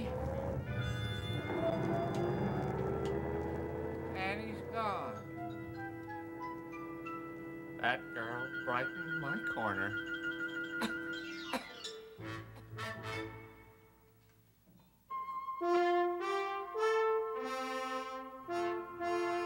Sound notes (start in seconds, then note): 0.0 car driving off; 11.4 sob